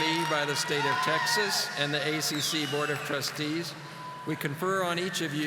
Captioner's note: audience applauding